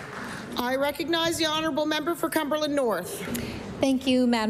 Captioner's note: applause